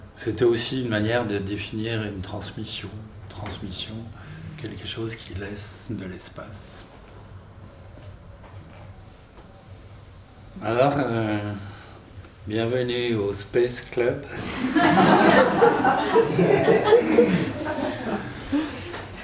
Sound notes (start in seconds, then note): 14.3 laughter